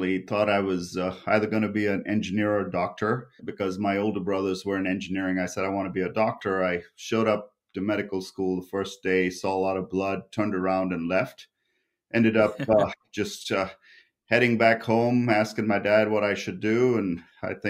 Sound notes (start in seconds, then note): 12.4 laughs